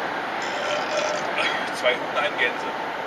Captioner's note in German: rülps